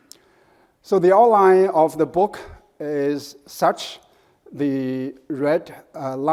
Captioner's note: none